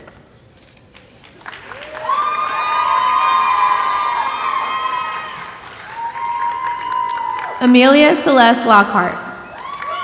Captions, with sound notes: (audience applauding and cheering) Amelia Celeste Lockhart.